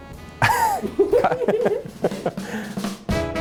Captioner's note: laughs